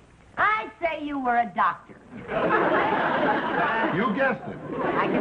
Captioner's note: audience laughing